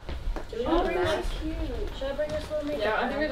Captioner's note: people chattering